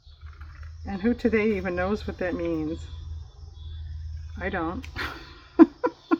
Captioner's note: laughs